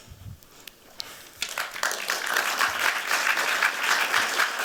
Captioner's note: applause